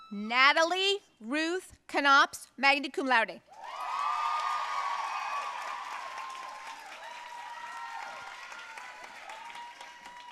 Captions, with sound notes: Natalie Ruth Knops, magna cum laude. (audience cheering and applauding)